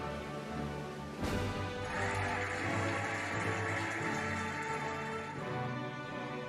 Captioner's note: cheering and applauding